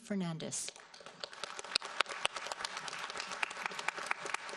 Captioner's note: audience applauds